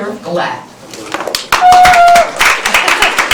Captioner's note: applause; cheer